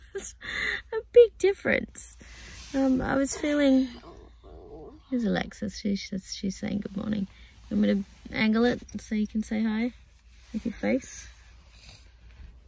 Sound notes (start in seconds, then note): 4.2 sounding sleepy